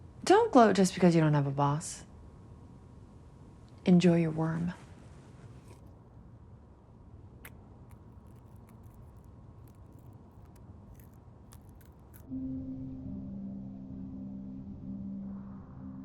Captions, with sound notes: Don't gloat just because you don't have a boss. Enjoy your worm. (chewing)